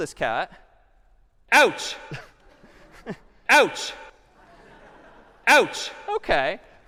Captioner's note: ouch sound playing repeatedly